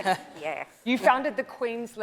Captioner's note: laughing; laughs